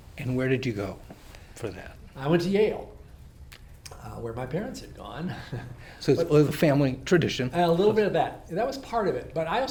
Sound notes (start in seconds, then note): 5.5 laughs